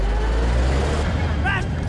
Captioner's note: tank rumbling